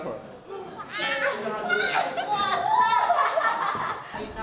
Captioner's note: laughter and screams